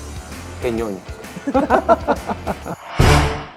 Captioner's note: laughter